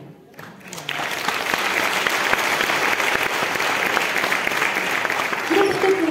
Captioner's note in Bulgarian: аплодисменти